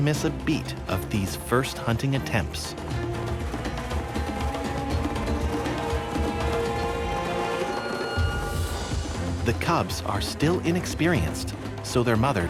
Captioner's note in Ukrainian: Оплески